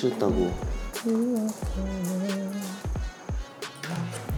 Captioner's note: humming at the thought of winning